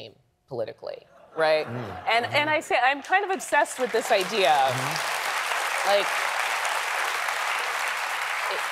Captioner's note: applause